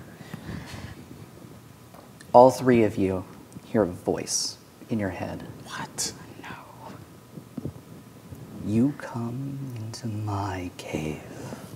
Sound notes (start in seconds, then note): 5.6 whispering